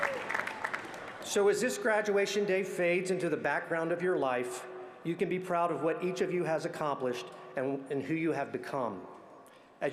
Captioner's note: applause